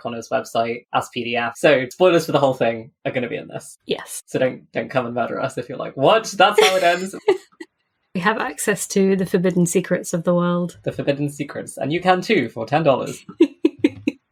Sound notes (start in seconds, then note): 6.5 laughs; 13.0 laughs